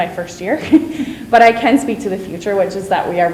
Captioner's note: chuckles